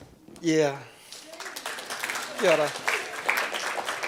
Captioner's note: audience applauds